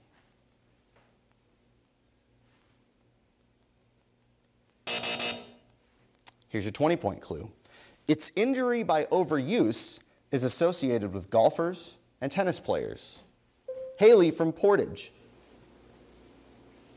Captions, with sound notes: (buzzer sounds) Here's your 20 point clue. Its injury by overuse is associated with golfers and tennis players. (bell dings) Haylee from Portage.